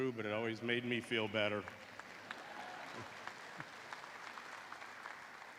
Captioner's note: laughter and applause